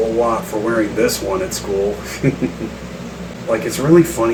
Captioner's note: chuckles